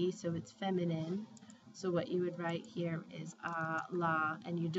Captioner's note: spanish; speaking spanish